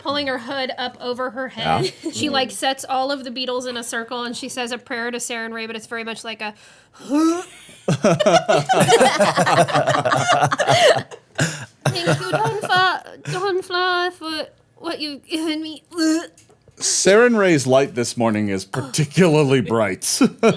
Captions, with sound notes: - Pulling her hood up over her head, she sets all of the beetles in a circle and she says a prayer to Saren Ray that is very much like (heaving). (everyone laughing) Go and fly for what you've given me (gagging). - Saren Ray's light this morning is particularly bright.